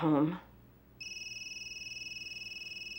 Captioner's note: cell phone ringing